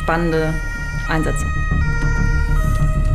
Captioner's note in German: Einsatzsirene